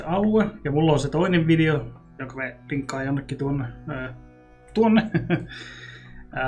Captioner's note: chuckles